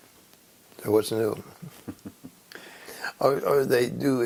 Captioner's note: laugh